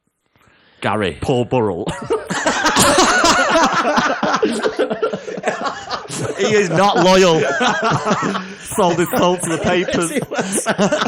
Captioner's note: laughter